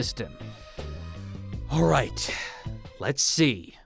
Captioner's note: inhale